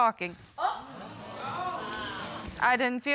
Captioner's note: audience exclaiming